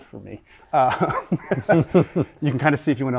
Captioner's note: all laughing